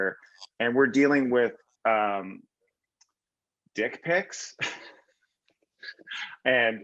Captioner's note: laughs